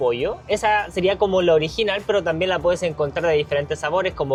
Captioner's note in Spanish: none